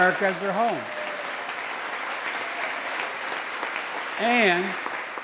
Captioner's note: applause